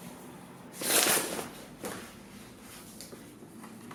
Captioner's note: paper rips